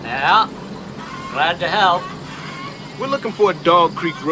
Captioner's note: chickens cackling